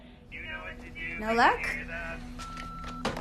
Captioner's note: phone beeping